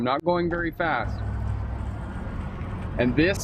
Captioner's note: engine roaring